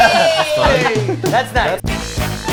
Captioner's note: crowd; crowd laughs; funky instrumental music